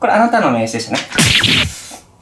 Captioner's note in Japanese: ビリッ